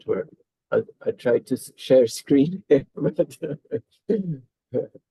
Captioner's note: chuckles